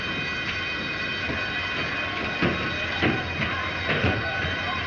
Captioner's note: fire alarm bell ringing